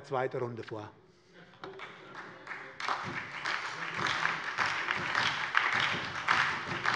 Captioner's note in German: Beifall bei der SPD